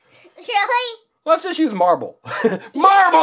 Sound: laughs

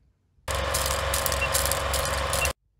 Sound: camera whirring

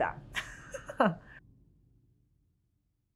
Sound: laughing

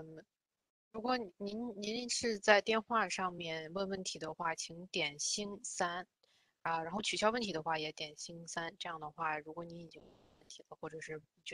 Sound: speaks in Mandarin

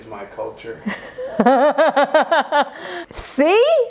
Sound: laughing

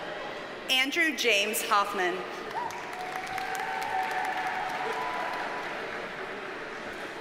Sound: audience cheers and applauds

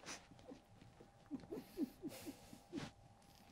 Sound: chuckles

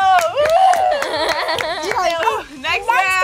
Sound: laughing

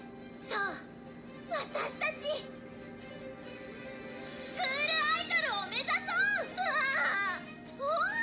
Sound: Riko makes an exasperated noise

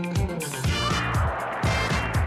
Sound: audience cheers, applause

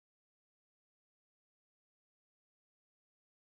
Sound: none

